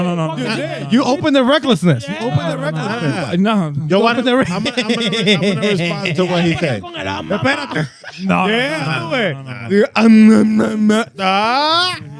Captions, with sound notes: You open the recklessness. You open the recklessness. No. (Speaking In Foreign Language) (Laughing) I'm gonna respond to what he said. (Speaking In Foreign Language) You better-- No, no, no, no. Yeah, do it. (Speaking In Foreign Language)